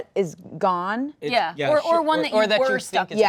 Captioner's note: confirming yeahs